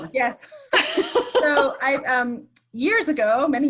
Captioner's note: laughing